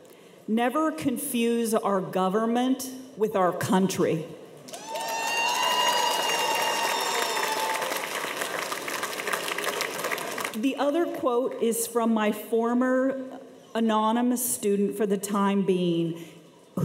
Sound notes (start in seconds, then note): 4.7 cheers and applause